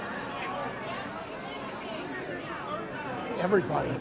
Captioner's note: overlapping chatter